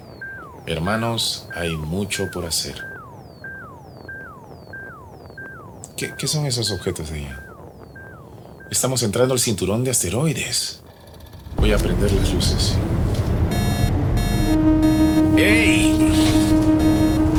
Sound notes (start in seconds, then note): 3.5 beeping sounds; 12.0 loud alarm sound